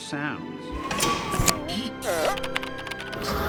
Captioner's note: electronic warbling; hydraulics whining